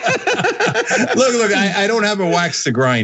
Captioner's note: laugh